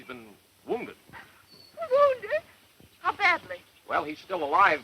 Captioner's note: gasp